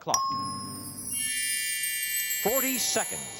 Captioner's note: bell dings; chimes